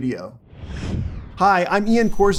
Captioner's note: air whooshing